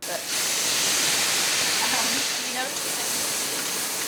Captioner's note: skillet sizzling